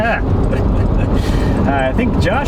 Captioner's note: laughing